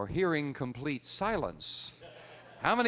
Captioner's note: laughter